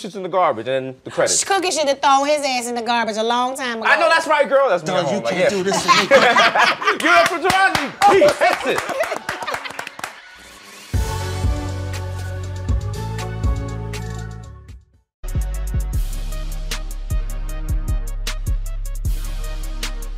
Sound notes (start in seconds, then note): 4.1 yelling; 5.4 laughter; 7.1 yelling; 9.4 applause